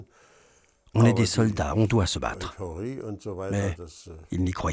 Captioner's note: German spoken audio